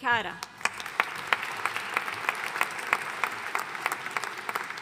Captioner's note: audience applauding